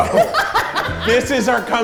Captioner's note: laughs